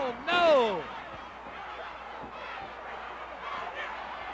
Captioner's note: crowd yelling